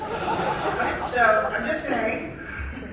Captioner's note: audience laughing